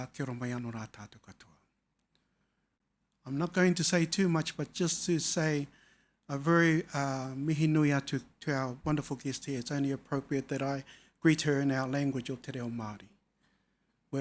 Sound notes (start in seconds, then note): 6.3 speaking foreign language